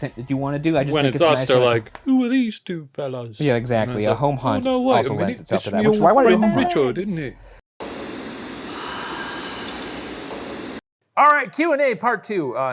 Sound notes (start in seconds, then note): 7.7 static hissing; 9.0 ghostly voice whispering